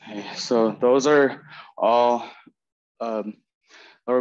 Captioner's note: breathing heavy